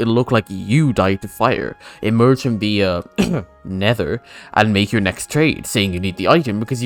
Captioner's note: ahem